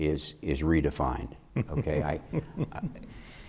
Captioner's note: chuckling